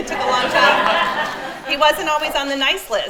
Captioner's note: attendees laugh; laughs